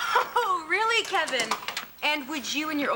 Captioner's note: laughs